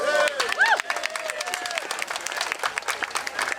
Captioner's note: crowd cheering